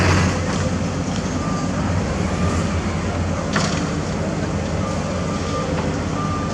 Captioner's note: truck Rumble